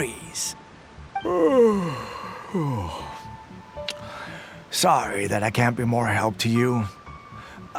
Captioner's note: yawn